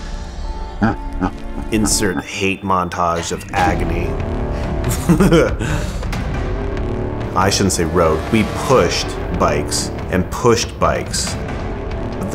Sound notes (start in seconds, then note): 0.1 laughs; 4.5 laughs; 5.2 somber tune